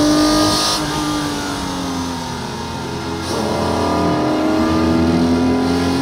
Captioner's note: car engine revving continues